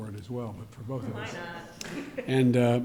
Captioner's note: laughs